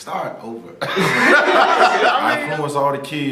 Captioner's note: laughter